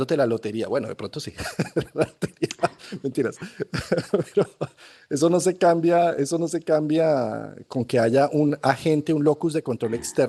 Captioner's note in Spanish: risas